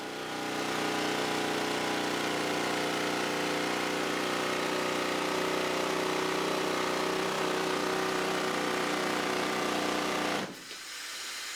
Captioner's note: sounds of Drilling